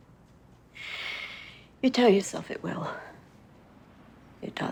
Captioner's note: inhales deeply